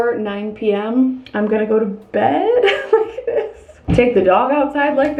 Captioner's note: laughing